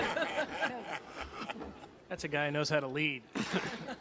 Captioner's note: laughter